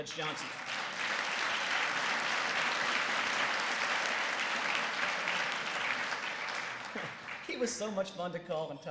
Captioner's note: applause